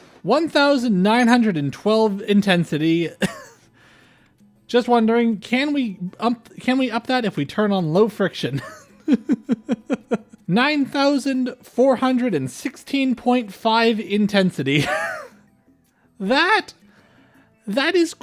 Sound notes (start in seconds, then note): 8.5 laughter